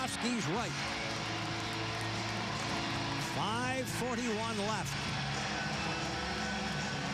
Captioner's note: cheers and applause